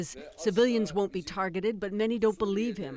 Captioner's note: speaking foreign language